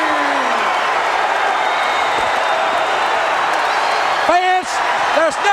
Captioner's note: crowd cheering